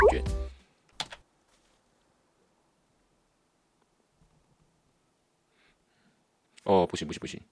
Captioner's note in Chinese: 這段是真的沒有聲音